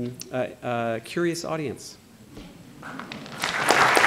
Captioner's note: applause